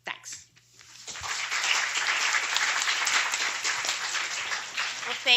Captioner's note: applause